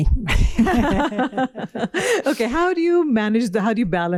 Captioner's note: laughter